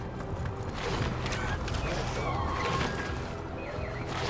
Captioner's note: none